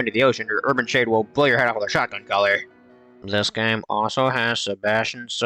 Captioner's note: completely Deadpan Tone